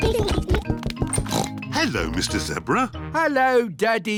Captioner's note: oinks